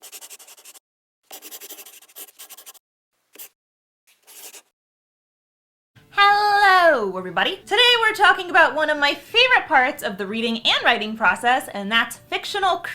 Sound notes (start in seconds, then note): 1.2 the sound of a pen scratching